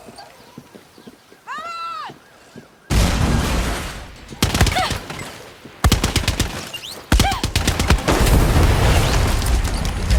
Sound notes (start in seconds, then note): 2.9 vehicle exploding; 5.0 guns firing